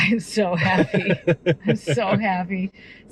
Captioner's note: laughing